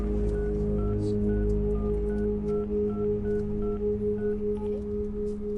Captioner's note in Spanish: Sonido al marcar